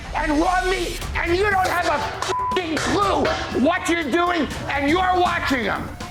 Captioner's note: beep